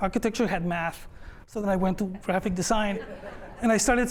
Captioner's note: laughter